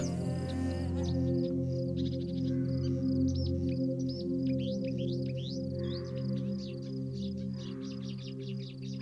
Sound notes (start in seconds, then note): 0.0 śpiew ptaków, muzyka cichnie